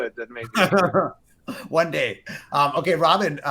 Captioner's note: laughs